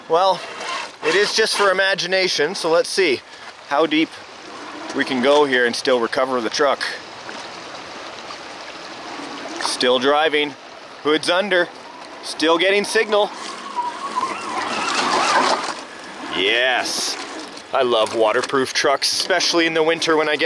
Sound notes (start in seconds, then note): 13.3 tires squealing